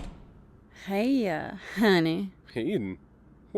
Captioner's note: slurred